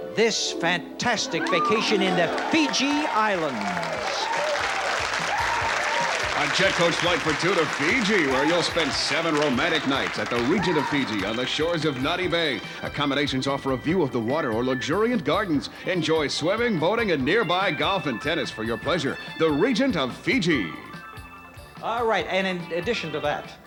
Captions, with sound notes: -This fantastic vacation in the Fiji Islands. -(applause) -On jet coach flight for two to Fiji, where you'll spend seven romantic nights at The Regent of Fiji, on the shores of Nadi Bay. Accommodations offer a view of the water, or luxuriant gardens. Enjoy swimming, boating, and nearby golf and tennis, for your pleasure. The Regent of Fiji. -All right, and in addition to that,